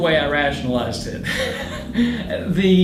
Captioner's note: laughing